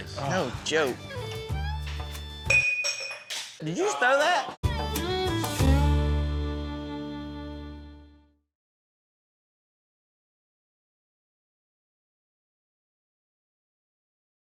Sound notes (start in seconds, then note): 2.5 cup clanking